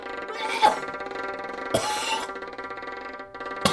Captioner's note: Anne vomiting